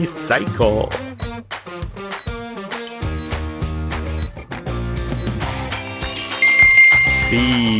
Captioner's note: timer ticking